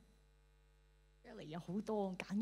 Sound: Cantonese

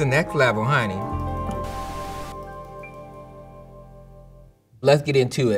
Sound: upbeat music ends; screen whooshing

